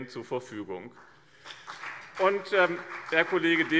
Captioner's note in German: Beifall BÜNDNIS 90/DIE GRÜNEN